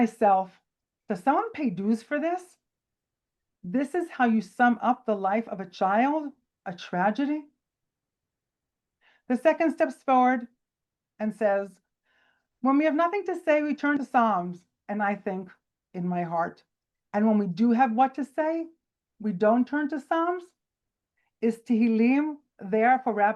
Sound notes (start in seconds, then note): none